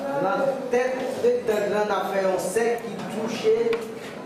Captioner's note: speaking Kreyol